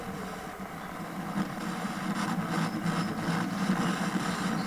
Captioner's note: television buzzing